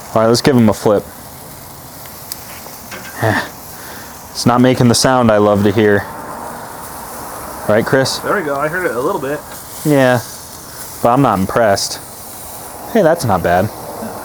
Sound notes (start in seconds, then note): 2.0 steak sizzling